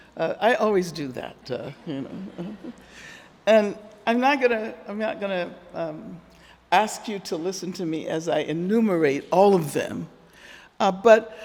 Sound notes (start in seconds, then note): 1.8 audience laughing